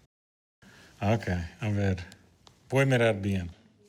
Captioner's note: speaking Portuguese